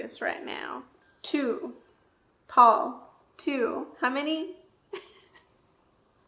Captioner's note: laughs